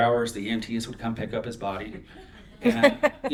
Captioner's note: laughter